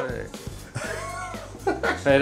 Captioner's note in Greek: γέλια